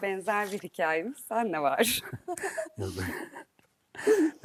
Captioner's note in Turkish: kahkaha